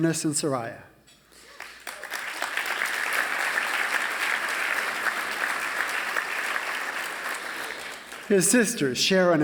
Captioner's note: applause